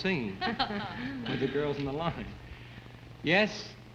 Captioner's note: laughs